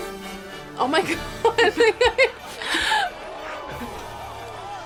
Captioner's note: laughs